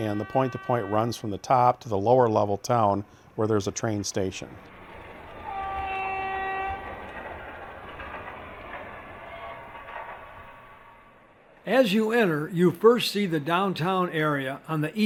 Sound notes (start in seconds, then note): 5.4 horn blares; 11.8 voiceover